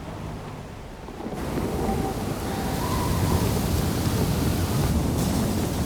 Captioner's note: wind whipping